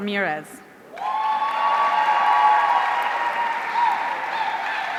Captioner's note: audience cheering